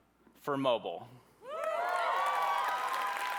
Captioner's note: applause